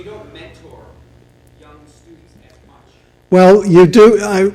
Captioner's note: voiceover